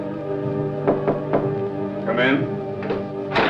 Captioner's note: Knocking; door Opens